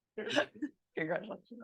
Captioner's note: laughing